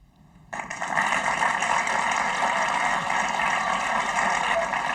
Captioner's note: audience applauding